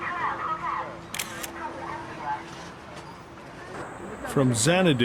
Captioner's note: announcement in the background